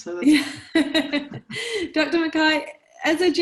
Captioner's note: laughing